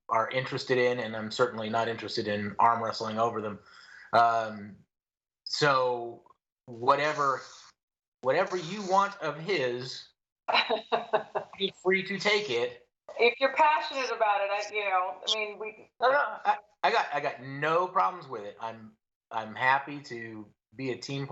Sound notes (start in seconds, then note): 10.5 laughter